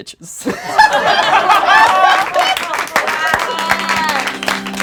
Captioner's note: laughing and applauding; melancholic organ music